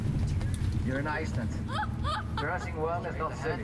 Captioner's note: laughing